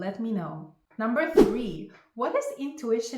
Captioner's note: air whooshing